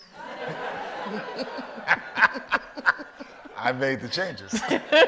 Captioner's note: audience laughs